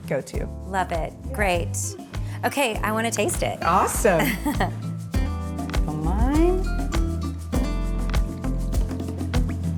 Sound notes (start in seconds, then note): 3.2 chuckles; 5.4 mellow music